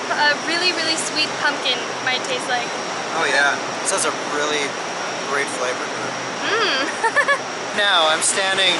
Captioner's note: laughter